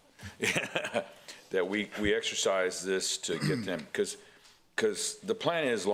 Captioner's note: laughter